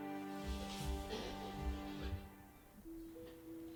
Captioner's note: kissing